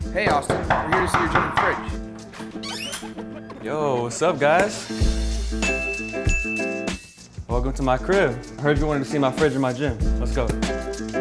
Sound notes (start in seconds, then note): 0.2 knocking; 3.1 door creaks; 4.7 upbeat music; 5.6 ding